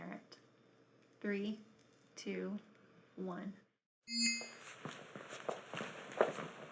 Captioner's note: soft dinging